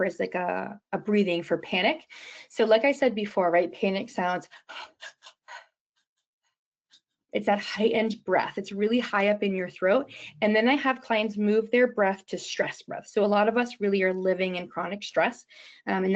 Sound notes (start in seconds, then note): 4.4 panicked breathing